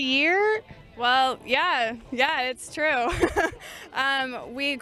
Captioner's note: chuckles